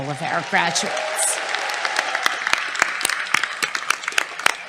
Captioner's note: applause